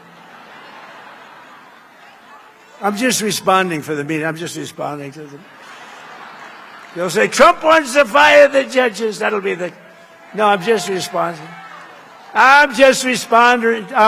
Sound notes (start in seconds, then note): 6.9 laughter